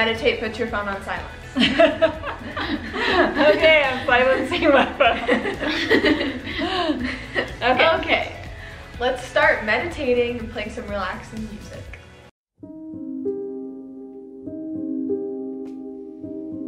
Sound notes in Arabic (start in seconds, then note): 3.7 يضحك الجميع